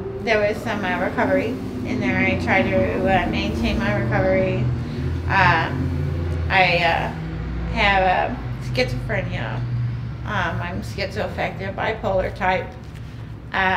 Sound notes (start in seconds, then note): none